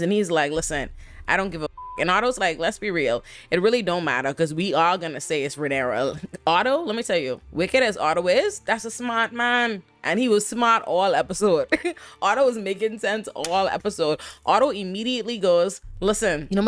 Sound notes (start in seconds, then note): 1.6 beep